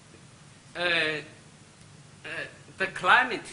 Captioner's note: speaks Chinese